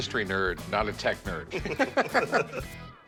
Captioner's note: both laugh